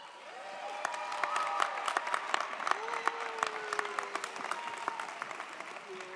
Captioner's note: audience applauds; audience cheers